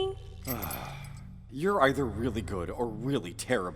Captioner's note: sighs